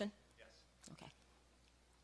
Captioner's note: voiceover